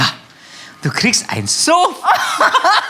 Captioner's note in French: rire